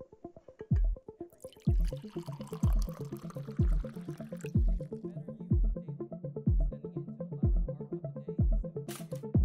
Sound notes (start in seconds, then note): 1.3 upbeat music; 1.3 tea pouring